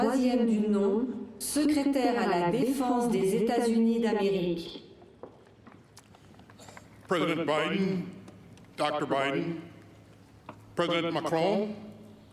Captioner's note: speaking french